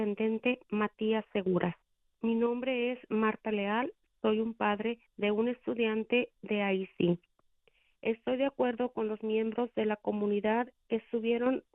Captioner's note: speaking spanish